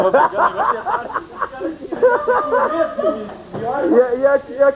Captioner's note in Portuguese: risos